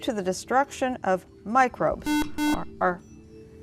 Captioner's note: buzzer